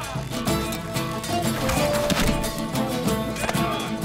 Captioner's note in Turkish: Ok sesleri